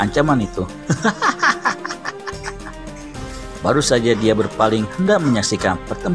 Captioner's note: laughing